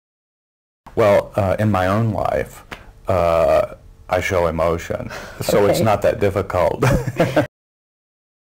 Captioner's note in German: Lachen